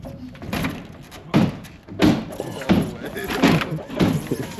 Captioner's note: crate thuds